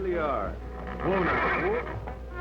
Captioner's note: whinnying